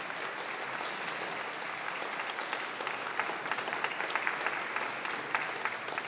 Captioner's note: audience applause